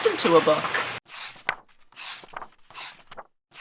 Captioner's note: pages turning